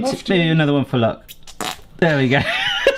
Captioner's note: ketchup bottle spurting; laughing